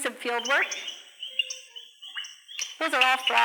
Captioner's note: frogs croaking